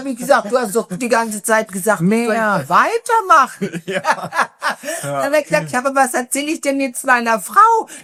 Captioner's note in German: gelächter